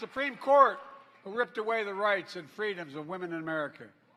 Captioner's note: applause